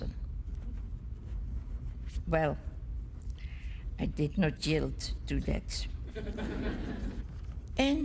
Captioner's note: laughter